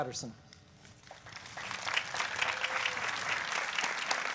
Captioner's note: applause